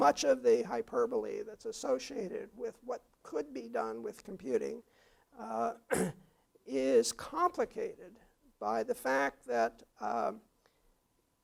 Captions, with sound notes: much of the hyperbole that's associated with what could be done with computing, [COUGH] is complicated by the fact that on